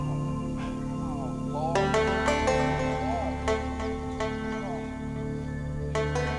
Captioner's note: Henry and Ronny grunting